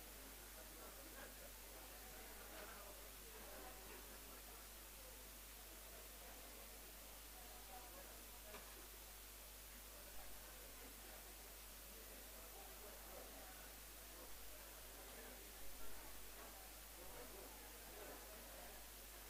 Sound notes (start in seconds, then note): 0.1 background chatter; 7.7 background chatter